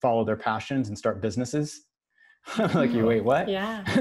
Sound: laughs

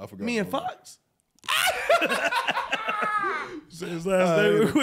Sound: laughing

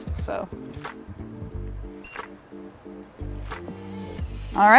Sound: beeping

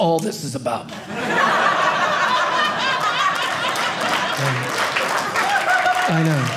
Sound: audience cheering

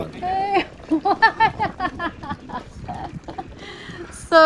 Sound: laughs

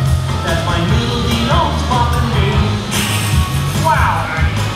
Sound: laughs

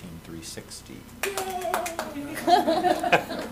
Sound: laughter

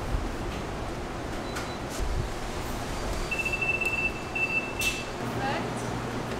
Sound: baking instruments beeping

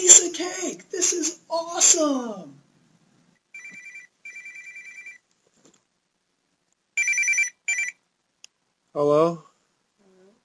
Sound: phone rings

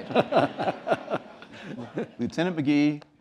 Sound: laughter

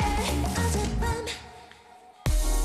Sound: silent

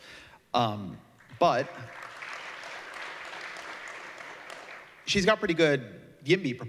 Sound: applause

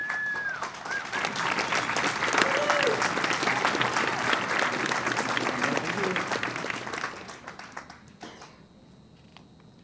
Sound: applause and cheering

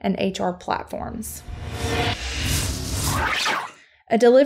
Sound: futuristic sounds

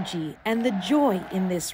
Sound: cheers and Applause

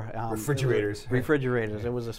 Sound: laughs

